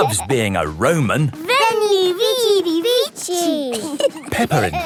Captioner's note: laughing